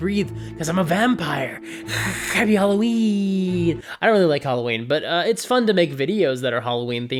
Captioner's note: hiss